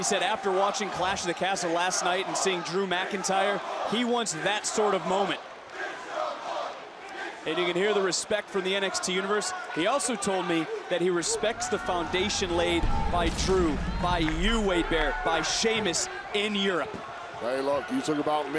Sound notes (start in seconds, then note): 8.1 crowd chants "big strong boi"